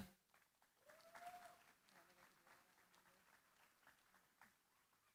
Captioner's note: applause